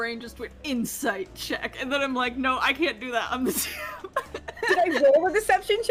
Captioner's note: laughs